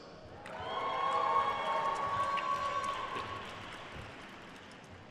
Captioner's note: attendees cheering and applauding